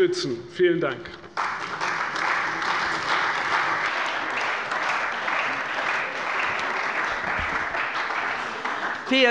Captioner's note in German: Beifall bei der CDU und dem BÜNDNIS 90/DIE GRÜNEN